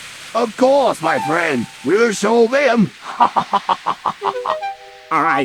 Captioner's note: laughs